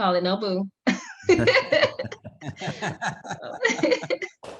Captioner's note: all laughing